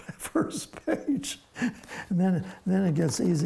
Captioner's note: laughs